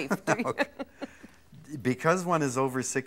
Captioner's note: laughter